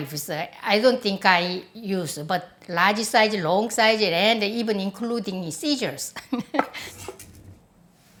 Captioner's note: laughs